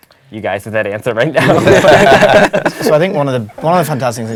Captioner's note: laugh